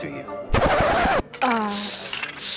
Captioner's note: record scratch